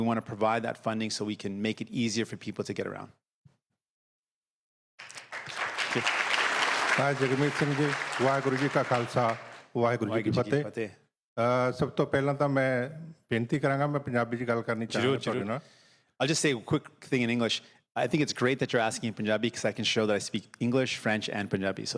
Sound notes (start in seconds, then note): 8.4 applause